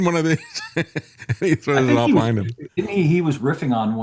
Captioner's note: laughs